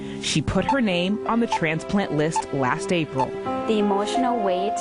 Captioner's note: heart monitor beeping